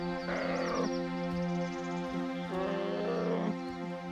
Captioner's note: bear moans